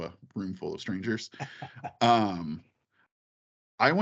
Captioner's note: laughing